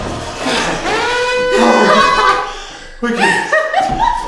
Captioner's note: alarm buzzing; laughing